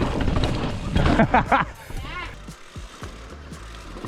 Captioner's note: laughs